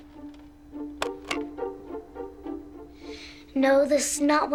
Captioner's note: hangs up telephone